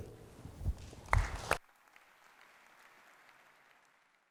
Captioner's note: applause